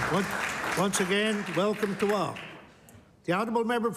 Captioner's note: applause